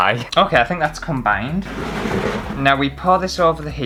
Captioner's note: dish Dragging Across Table